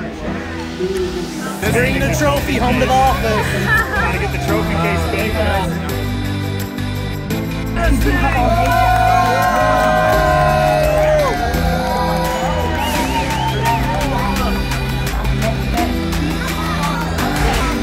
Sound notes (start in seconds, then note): 3.8 mom laughs; 6.0 warm electronic music; 10.7 crowd cheering